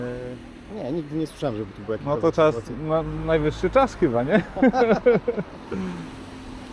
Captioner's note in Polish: śmiech